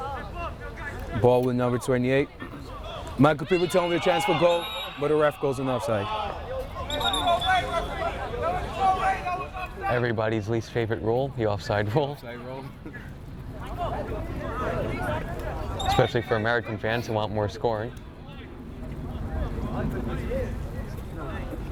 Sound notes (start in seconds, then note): 6.8 whistle tweeting; 8.3 players shouting; 19.0 people talking